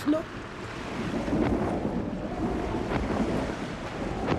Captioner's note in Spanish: viento fuerte